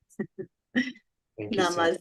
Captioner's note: chuckles, crosstalk